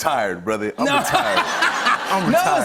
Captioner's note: laughter